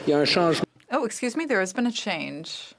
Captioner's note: speaking French